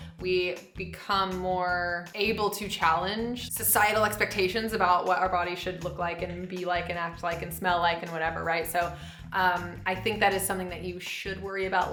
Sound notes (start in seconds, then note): none